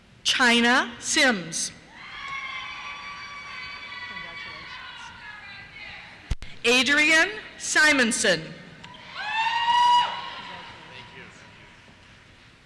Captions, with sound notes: Chyna Simms. (cheers) Congratulations. Adrian Simonson. (cheers) Congratulations. Thank you.